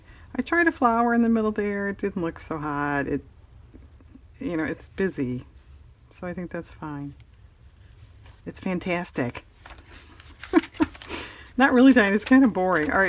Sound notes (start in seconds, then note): 10.3 laughs